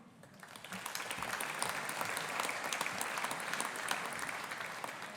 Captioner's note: audience applauding